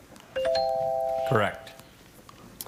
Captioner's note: scoreboard dings